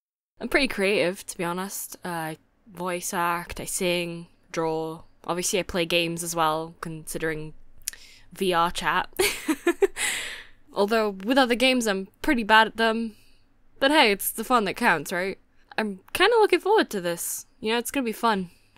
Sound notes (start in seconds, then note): 9.2 giggle